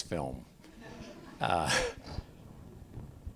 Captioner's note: laughter